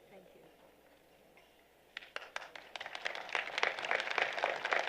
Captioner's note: applause